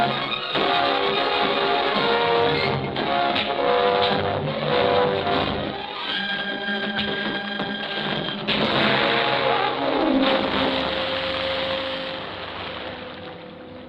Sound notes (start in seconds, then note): 3.0 thudding; 6.9 thud; 9.7 water splashing